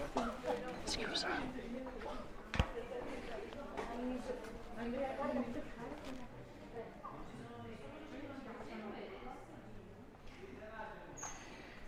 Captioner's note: background chatter